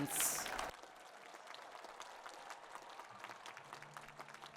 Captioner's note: applause